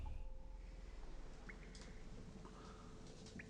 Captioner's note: water dripping